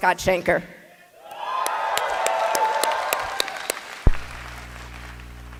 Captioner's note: applause